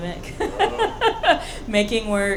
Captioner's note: laughing